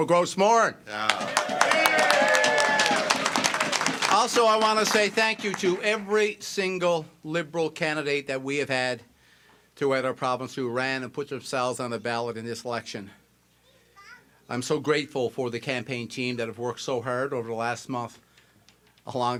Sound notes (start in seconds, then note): 5.5 cheers and applause